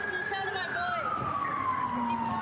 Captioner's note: sirens